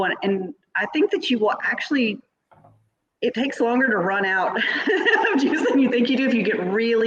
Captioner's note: laughs